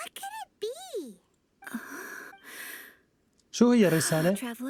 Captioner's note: gasping